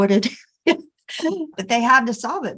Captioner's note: person giggling